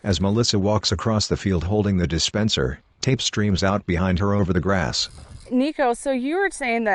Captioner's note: tapes rolling